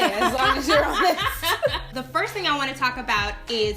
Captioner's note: laughing